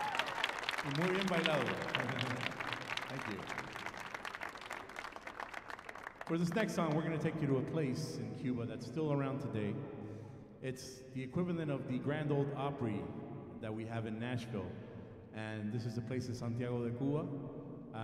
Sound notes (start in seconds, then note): 1.3 speaking foreign language